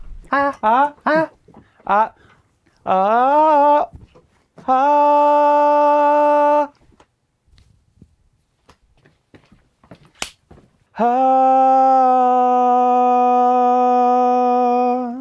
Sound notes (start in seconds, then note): 0.2 vocalize; 2.7 vocalize; 4.6 vocalizes; 10.9 vocalizes